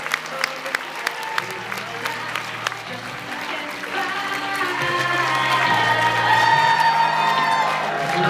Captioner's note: applauds